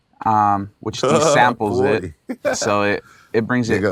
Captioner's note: laughs